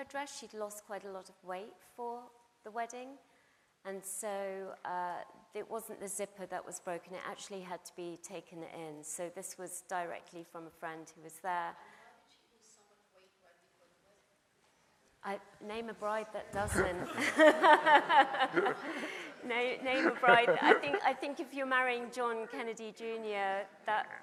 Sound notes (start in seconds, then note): 16.6 laugh; 17.9 audience laughs; 19.8 laughs